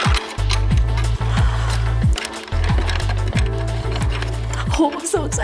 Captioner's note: exciting music; metallic scraping